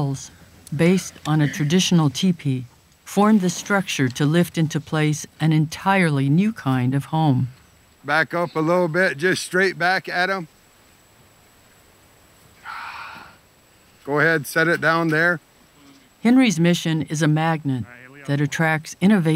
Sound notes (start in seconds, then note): 10.7 exhales